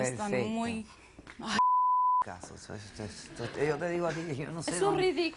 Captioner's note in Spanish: Bip